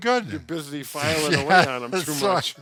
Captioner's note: laughs